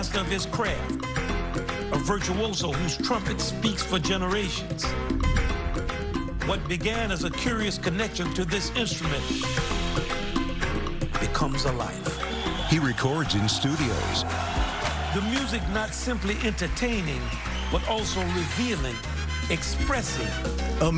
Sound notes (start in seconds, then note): 12.0 cheering and applause